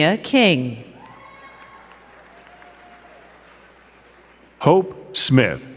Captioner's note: crowd cheering and clapping